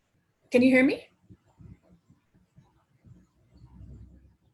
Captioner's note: long pause